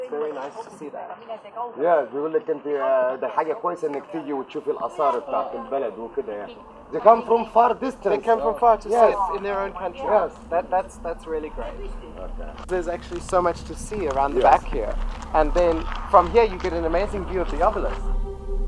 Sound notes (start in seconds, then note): 1.7 speaking foreign language